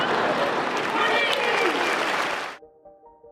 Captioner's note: applauses